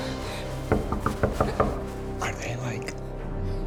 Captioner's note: knocking